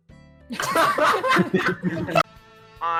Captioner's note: laughter